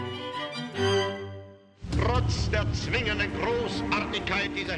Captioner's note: archive, German speech